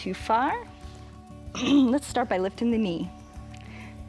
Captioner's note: clearing throat